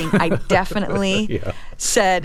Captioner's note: laughter